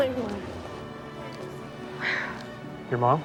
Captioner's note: sighs